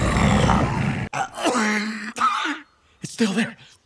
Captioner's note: growling; coughing